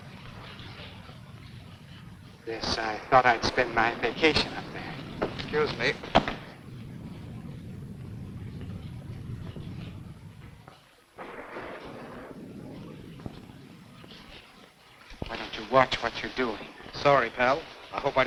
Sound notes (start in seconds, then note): 6.0 satchel thuds; 11.6 rain pattering; 11.6 thunder rumbling